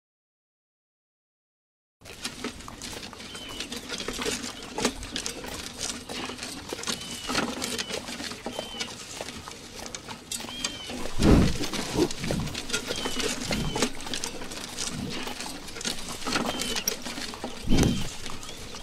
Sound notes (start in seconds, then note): 2.0 footsteps; 4.1 cart rolling; 11.0 heavy breathing; 17.8 heavy breathing